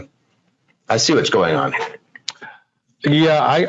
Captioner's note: laughs